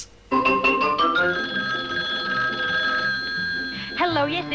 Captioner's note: phone rings